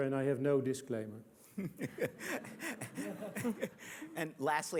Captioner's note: laughter